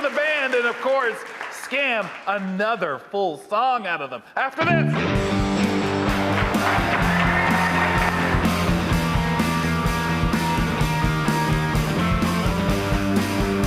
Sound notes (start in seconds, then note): 4.9 upbeat blues music; 5.7 audience applauding; 5.8 audience cheering